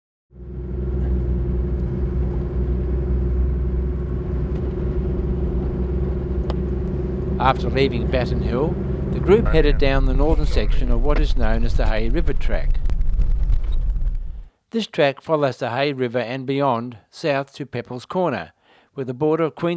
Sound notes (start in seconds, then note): 0.4 vehicle sounds